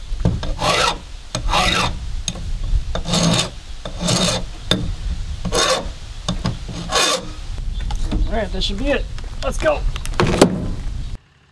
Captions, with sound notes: (rasp scraping) Alright, this should be it. Let's go.